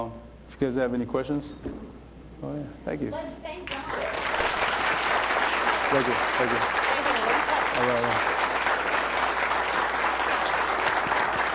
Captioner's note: applause